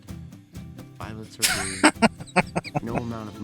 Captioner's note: laughing